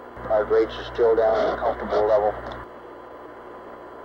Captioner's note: mission Control Audio